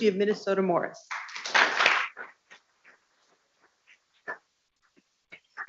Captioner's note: people clapping